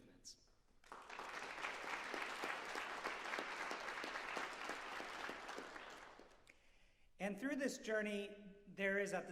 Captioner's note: applause